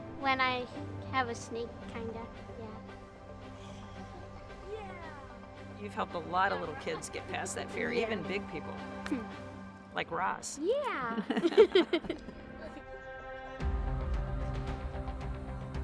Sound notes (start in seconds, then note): 11.1 laughing; 13.1 gentle music